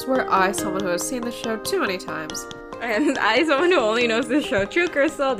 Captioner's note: laughs